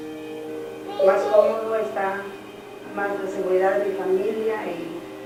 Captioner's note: speaking Spanish